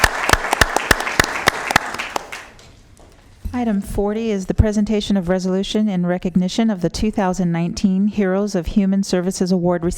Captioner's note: applause